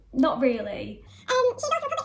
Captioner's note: sped up talking